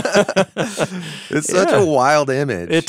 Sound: laughing

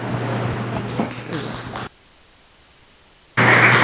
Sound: applause

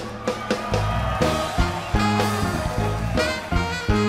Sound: cheers

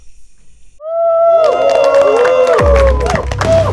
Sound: students hooting, clapping

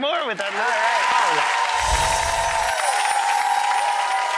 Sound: audience cheering

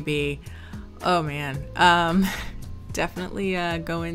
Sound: sighs

